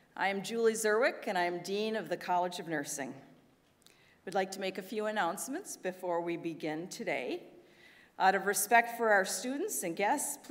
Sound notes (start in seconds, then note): none